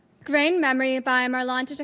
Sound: none

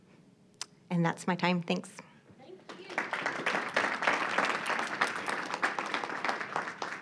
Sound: audience applauding

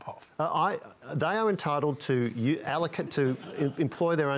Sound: laughter

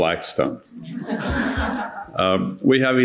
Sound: audience laughing

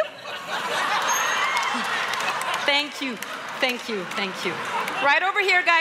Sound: laughter

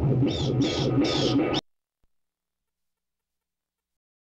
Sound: bats screeching

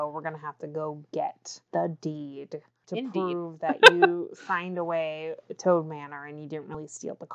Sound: laughs

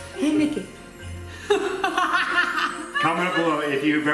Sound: laughing

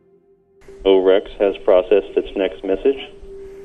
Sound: voice on radio

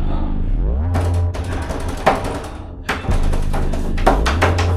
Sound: door is beaten; door beating and scratching noises

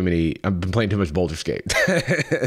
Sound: chuckles

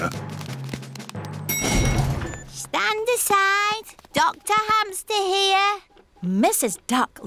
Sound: elevator dings

